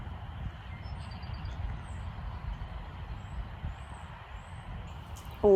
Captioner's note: nature sounds continue